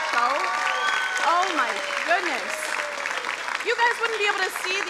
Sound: crowd applauding

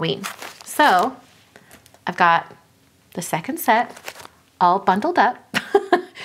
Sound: laughs

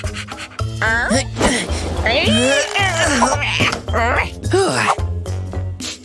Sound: groans

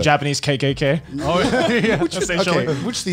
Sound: laughs

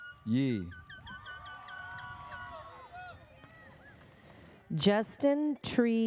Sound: airhorn sounds

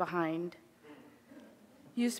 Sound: audience speaking faintly

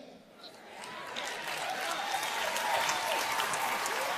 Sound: audience cheering

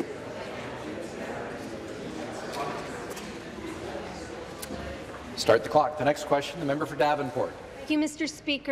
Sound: conversation din

